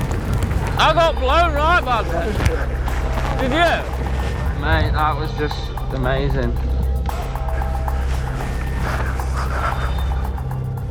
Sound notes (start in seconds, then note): 0.0 bikers yelling; 7.9 tense music